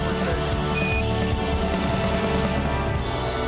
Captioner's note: beep